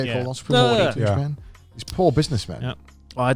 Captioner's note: wails